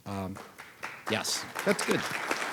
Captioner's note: audience applauding